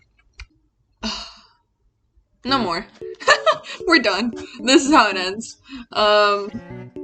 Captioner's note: sighs; laughs